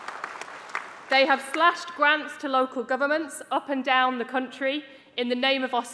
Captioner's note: applause